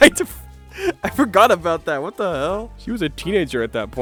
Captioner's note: laughing